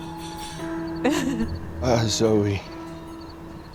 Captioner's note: Zoe crying